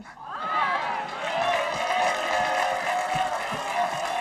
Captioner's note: audience cheering